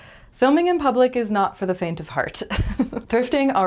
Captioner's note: laugh